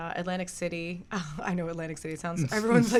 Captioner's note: beat boxes club rhythm